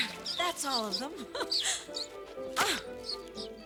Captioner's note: giggles